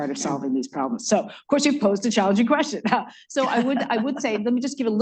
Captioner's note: laughs